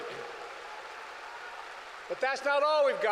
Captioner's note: applause